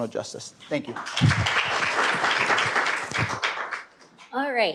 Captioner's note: applause